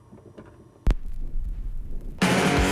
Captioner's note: needle buzzes